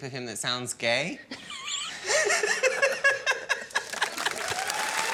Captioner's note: both laugh; cheering and applause